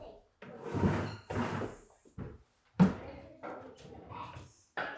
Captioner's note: children chattering